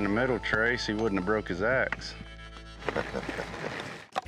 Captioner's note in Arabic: كلاهما يضحك